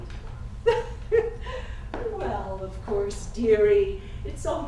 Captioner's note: laugh